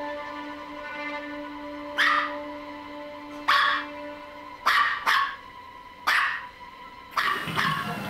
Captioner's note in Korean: 개 짖는 소리